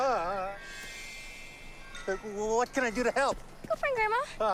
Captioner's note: groaning